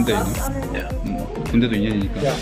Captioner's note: laughs